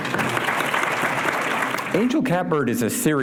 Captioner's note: applause